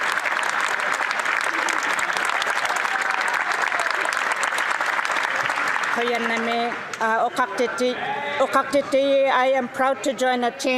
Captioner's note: some Applause